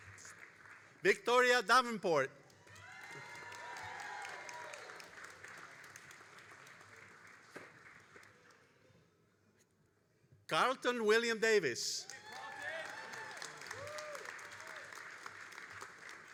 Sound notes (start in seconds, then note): 2.4 all applauding and cheering; 12.0 all applauding and cheering